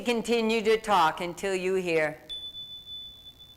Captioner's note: chime